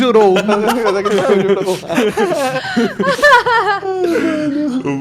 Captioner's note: laughing